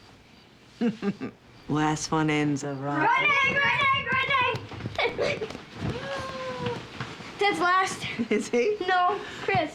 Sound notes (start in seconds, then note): 0.8 laughs; 4.9 both laughing